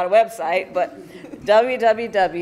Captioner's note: laughter